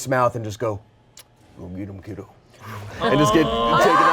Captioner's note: smooches